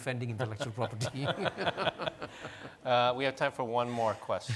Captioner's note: laughing